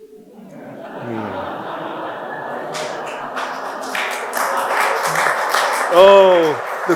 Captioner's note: audience laughing; audience applause